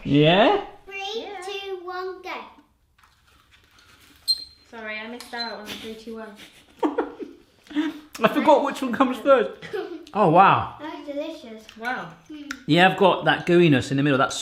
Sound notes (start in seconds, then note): 5.6 laughing; 9.5 giggles